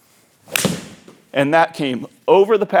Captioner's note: ball cracking